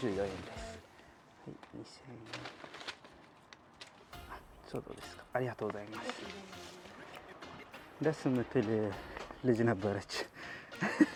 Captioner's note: Speaking Japanese